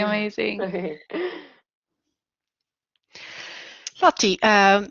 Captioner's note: laughing